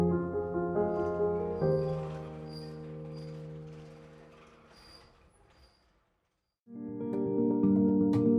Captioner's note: windmill creaking